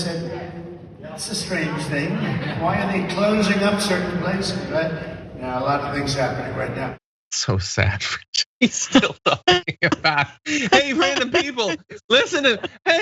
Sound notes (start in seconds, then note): 8.7 laugh